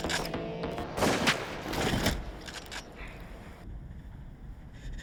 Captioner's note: gun firing